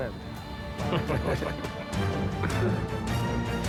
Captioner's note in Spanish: risas